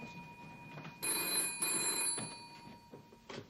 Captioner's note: telephone rings